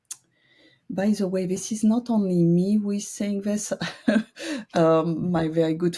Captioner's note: chuckles